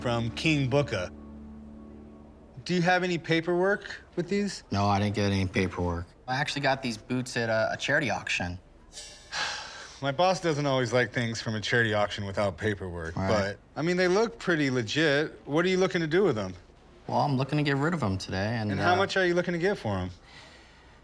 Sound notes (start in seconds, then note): 8.9 sighs